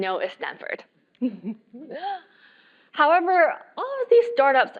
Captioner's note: laugh